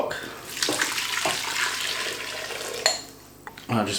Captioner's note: sploosh